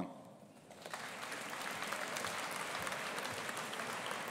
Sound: audience applauding

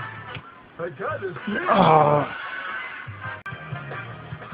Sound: lets out an annoyed grunt

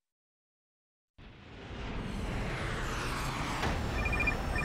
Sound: dramatic sound

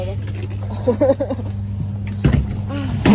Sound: shy laughter hoping not to fight

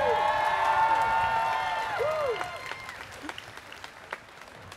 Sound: students cheering

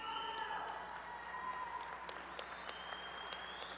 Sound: applause and cheering

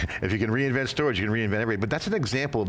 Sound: chuckles

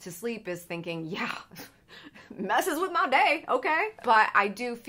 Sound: scoffs

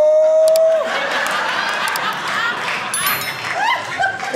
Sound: audience laughing

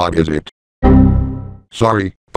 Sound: Windows XP Critical Stop

